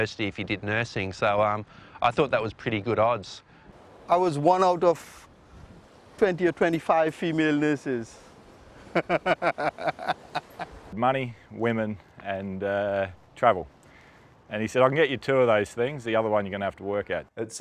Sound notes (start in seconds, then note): 8.8 laugh